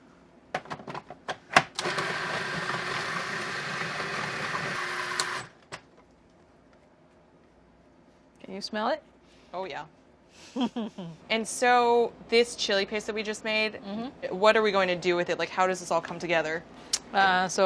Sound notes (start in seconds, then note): 1.8 whirring; 10.4 laughter